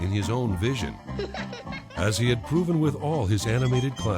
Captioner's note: laughs